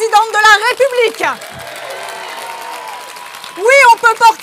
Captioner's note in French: Applaudissements